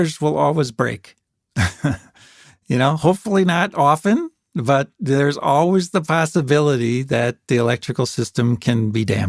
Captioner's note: laughs